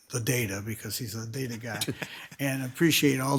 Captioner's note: laughs